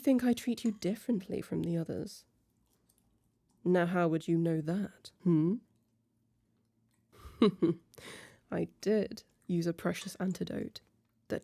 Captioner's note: short pause and chuckle